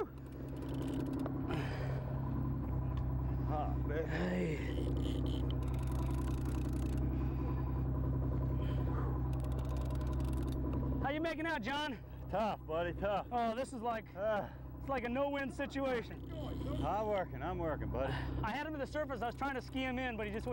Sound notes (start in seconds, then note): 1.4 heavy breathing